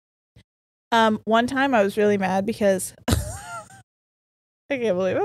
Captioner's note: laughs